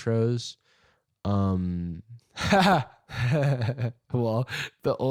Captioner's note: laughing